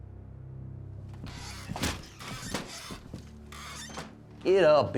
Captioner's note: swinging doors squeak